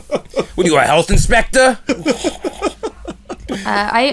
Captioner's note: laughter